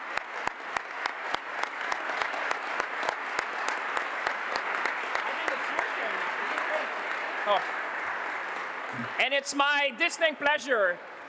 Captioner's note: applause